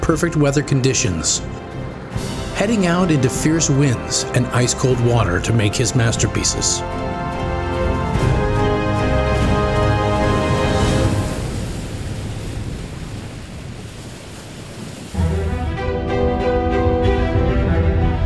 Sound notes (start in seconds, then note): 10.9 waves crashing; 15.2 upbeat music